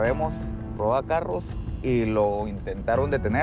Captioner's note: speaking spanish